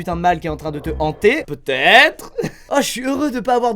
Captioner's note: laughs